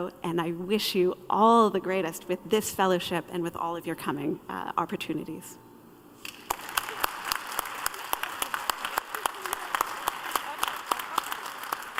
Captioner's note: applause